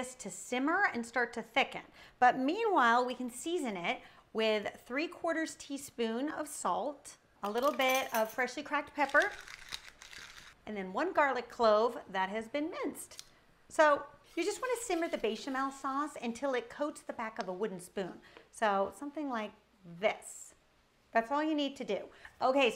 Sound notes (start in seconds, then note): 8.9 shaker shuddering